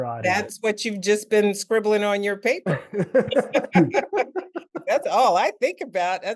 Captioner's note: laughter